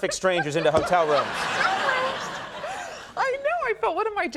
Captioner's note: audience laughing